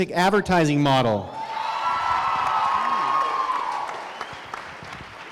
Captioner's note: crowd cheering